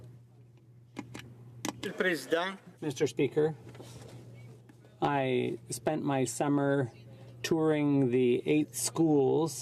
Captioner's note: speaking French